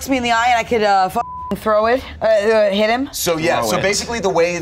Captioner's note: beep